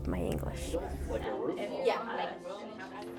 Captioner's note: conversations in background